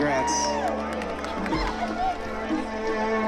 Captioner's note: crowd cheering